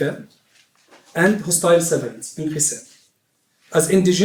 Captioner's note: non-english speech; non-english speech